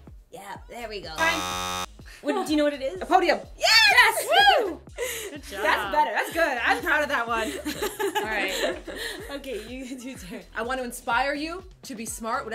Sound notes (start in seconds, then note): 1.2 buzzer sounds